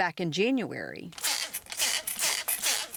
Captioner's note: water spraying